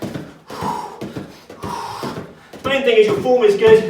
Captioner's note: exhales sharply